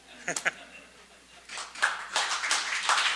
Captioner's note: audience laughs; audience applauds